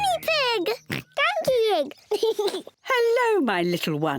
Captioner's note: giggles and oinks; laughs; oinks